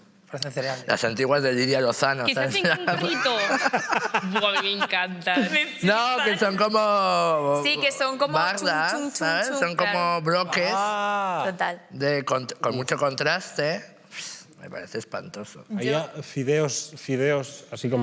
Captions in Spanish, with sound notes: -Parecen cereales. -Las antiguas de Lidia Lozano. (TODOS RÍEN) ¿Qué se hacen con un gorrito? Buah, a mí me encantan. -No, que son como... -Sí, que son como... -Como baldas, ¿sabes? Son como bloques con mucho contraste. Me parece espantoso. Había fideos... fideos...